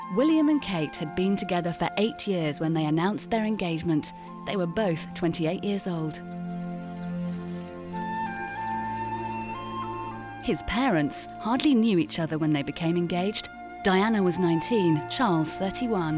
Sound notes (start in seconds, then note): 6.0 camera shuttering